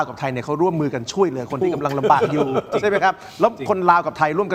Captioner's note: laughs